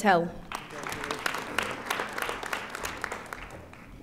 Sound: audience applauding

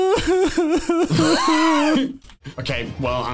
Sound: making crying noises

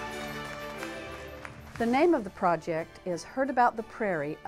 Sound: applause

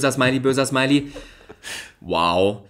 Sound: laughs

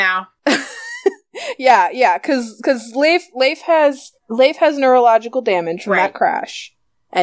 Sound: laughs

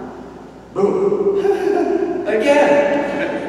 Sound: imitates child laughing

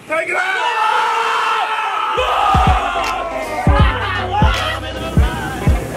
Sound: excited shouting; mellow reggae music

